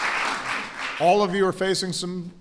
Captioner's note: applause